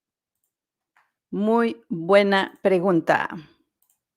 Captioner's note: Spanish